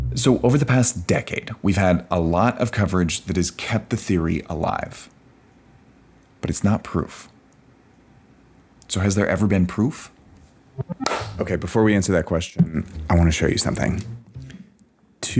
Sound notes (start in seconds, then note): 10.7 transition warbles; 11.0 claps